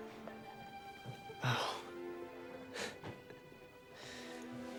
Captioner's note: scoffs